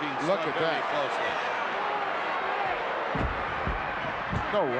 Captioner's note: crowd yelling